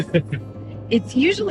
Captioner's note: laughing